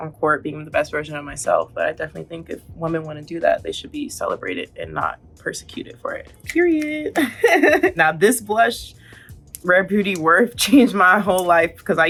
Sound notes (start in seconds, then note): 7.1 Coco chuckling